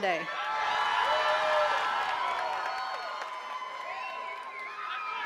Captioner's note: attendees cheering and clapping